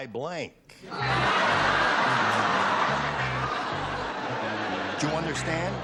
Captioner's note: laughter